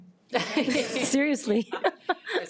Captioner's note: audience laughs